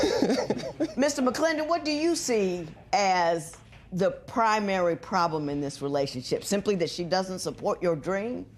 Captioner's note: laughs